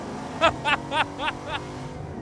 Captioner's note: laughs